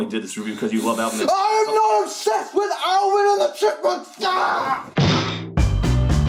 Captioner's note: bouncy crash